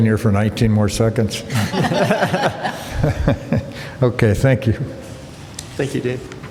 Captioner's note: laughter